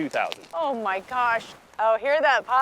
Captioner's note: seaweed crackling